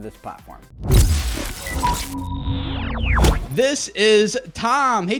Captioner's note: swoosh; electronic tones